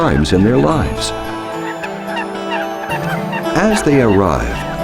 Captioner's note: squawking birds